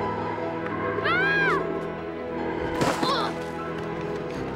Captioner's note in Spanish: Gritando